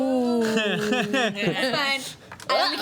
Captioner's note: laughing